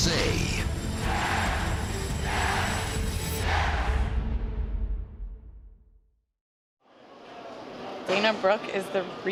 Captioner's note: fans chanting